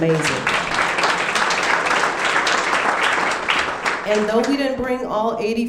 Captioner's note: audience clapping